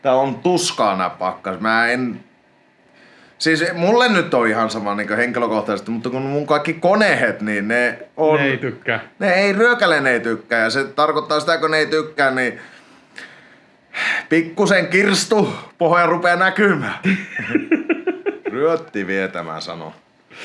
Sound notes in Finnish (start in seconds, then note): 13.9 hengähtää